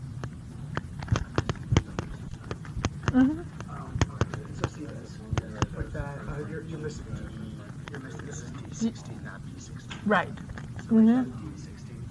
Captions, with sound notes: (students chatting) Right, mm-hmm.